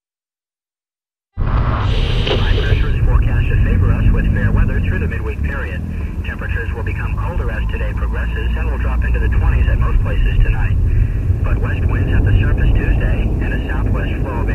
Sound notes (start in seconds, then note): 1.3 radio playing